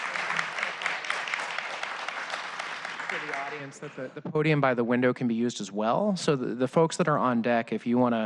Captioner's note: applause